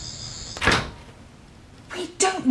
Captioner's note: locks disengage